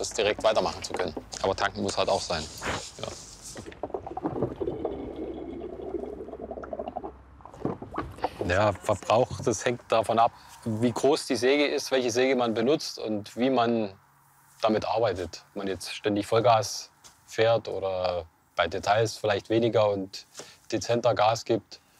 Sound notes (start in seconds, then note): 4.1 chuckling